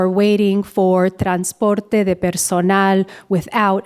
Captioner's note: speaker speaking in a foreign language